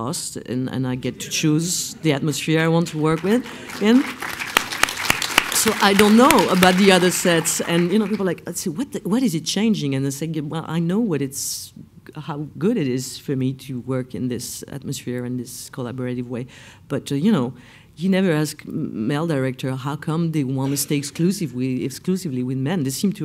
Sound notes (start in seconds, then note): 4.4 applause